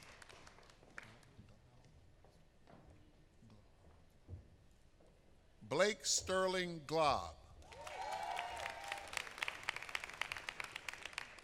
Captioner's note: applause